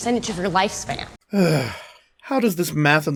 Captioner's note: sigh